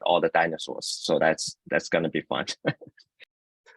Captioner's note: laughs